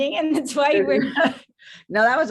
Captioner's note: laughter